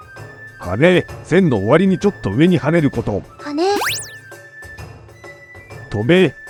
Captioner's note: upward brushstroke